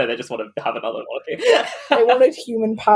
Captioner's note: laughs